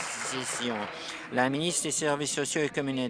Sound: applause

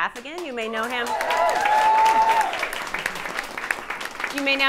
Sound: audience cheering

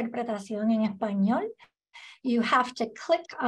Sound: spanish

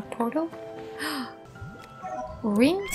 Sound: gasp

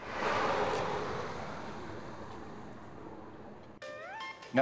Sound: car speeding

